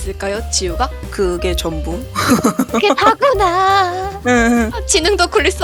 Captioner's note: laugh